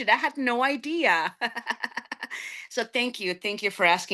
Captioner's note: laughing